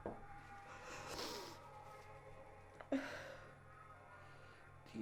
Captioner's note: Kristen sniffling